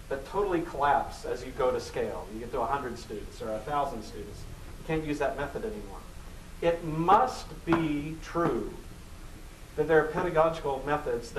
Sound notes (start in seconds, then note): none